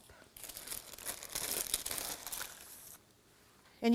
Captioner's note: paper crinkling